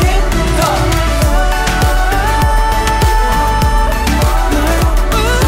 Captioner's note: Ohhhh